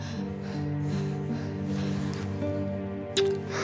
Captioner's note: panting; kissing